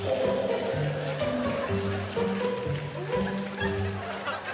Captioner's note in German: Publikum applaudiert und lacht